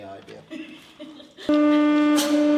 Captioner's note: giggles